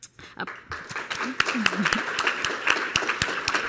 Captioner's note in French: Applaudissements